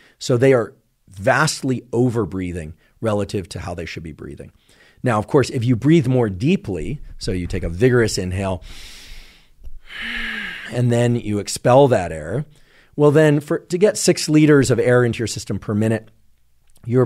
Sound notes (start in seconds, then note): 9.7 inhales